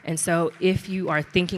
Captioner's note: audience clapping